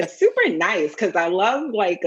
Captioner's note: laughs